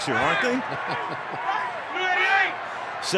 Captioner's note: laughs